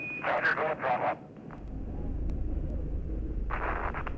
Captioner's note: voiceover; explosion